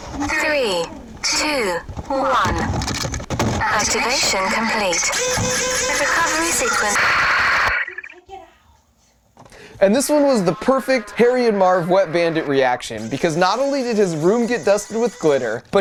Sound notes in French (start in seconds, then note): 4.8 la pompe grince